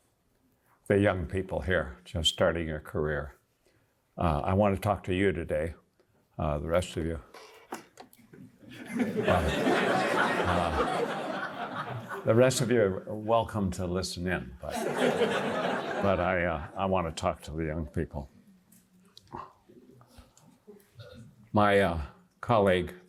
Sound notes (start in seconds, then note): 5.8 laughter